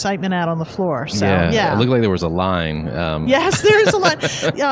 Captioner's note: laughs